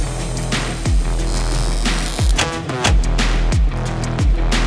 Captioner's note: intense dramatic music; welder crackling